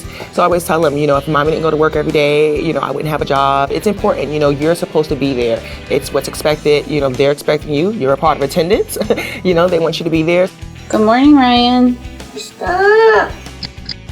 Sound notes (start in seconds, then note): 12.2 complaining